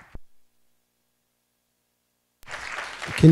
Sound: applause

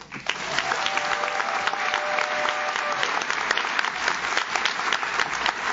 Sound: audience claps; audience cheers

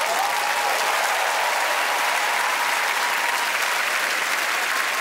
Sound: cheers and applause

